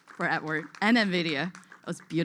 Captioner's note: applause